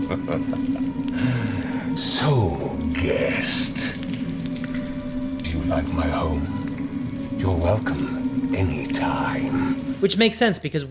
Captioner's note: chuckles